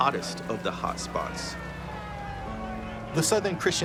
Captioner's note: siren